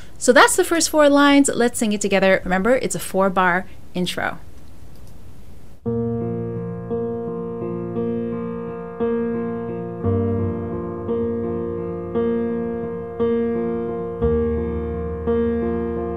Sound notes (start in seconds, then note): 4.9 mouse clicks; 5.9 gentle music